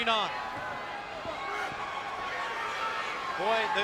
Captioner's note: spectators cheering